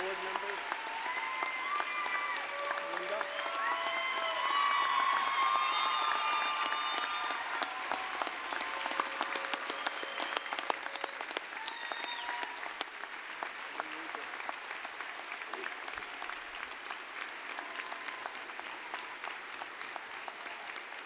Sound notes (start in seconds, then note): 5.3 applause, cheering